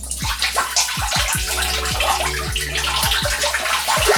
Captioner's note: water pouring